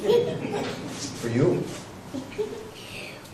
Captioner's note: chuckle